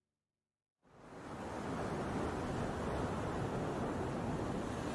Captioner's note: water rippling